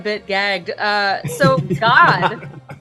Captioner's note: cast laughs